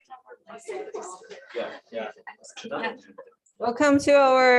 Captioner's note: background chatter